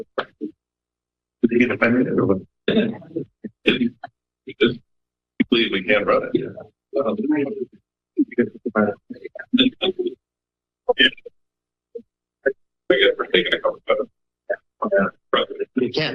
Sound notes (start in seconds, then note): 0.0 background chatter; 2.9 background chatter; 14.8 background chatter